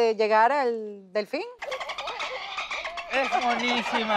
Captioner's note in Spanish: Canto de delfín